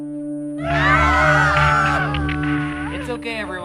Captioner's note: contestants screaming